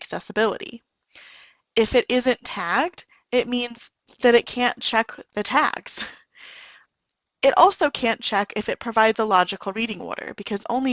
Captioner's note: chuckle